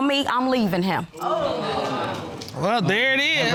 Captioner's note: audience exclaims